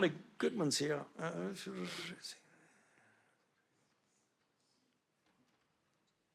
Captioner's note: Dr. Fauci mumbles softly